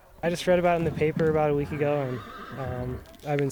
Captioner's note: horse neighing